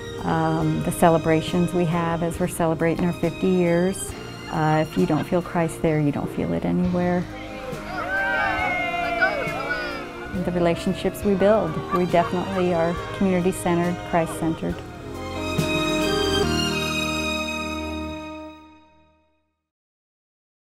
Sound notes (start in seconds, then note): 7.6 crowd cheering!